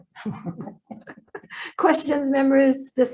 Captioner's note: laughing